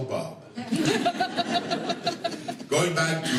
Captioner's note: laughter